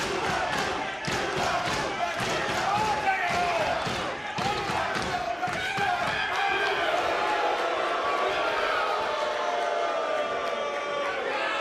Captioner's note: audience jeers